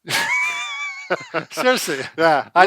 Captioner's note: both laugh